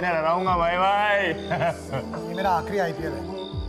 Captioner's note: chuckling